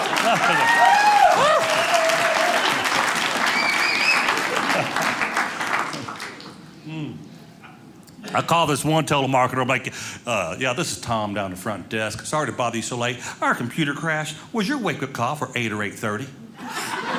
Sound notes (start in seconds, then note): 0.0 audience cheering; 3.9 audience whistling; 16.6 audience laughing